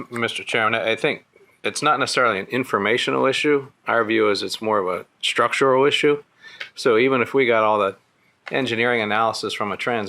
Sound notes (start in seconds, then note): none